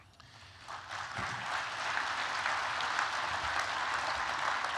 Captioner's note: applause